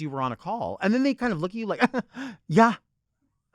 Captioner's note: chuckles